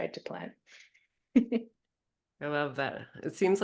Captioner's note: chuckles